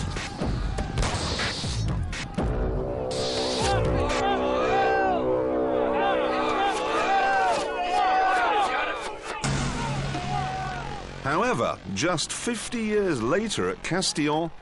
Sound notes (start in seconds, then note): 2.8 horn blows; 3.2 people shouting